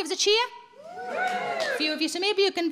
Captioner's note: audience cheering